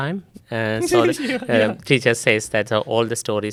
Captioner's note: laughs